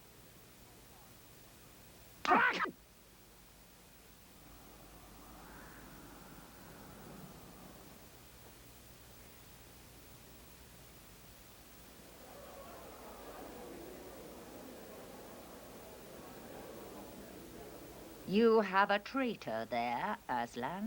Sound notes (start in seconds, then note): 4.2 wind howls softly; 12.0 distant chatter